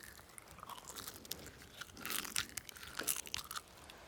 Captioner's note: chewing